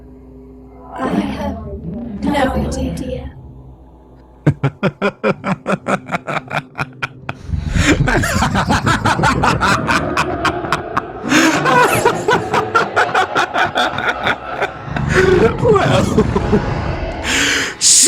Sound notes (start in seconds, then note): 4.4 Theo laughs, loudly, maniacally